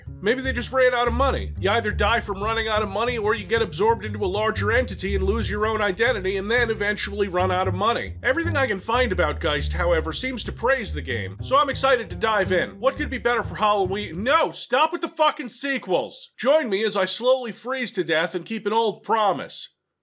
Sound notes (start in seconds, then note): none